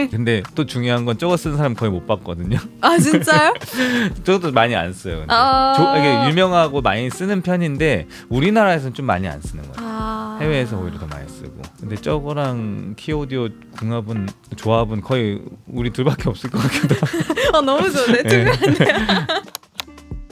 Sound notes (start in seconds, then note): 19.1 laughs